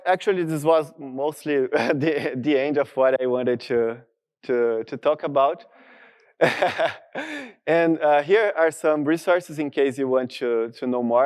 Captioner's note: laughter